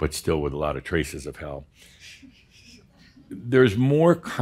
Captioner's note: a few chuckles